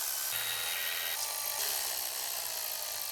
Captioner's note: drilling